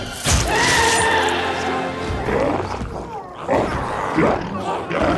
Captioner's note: dramatic music continues; glowzie shouts